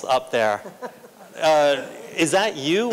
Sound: laughter

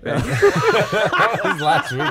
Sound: laughing

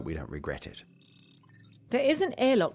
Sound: scanning

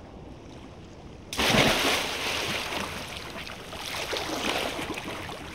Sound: splash

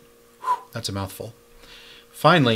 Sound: blows

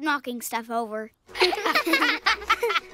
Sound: laughter

